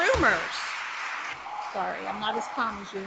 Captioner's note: audience applauds